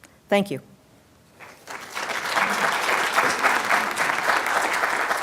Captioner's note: applause